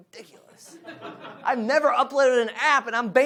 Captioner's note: audience laughs